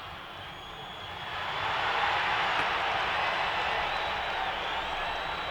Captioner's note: audience cheering